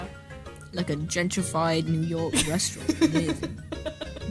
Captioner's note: laughs